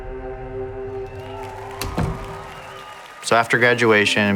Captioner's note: audience applauding